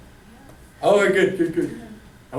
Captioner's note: voiceover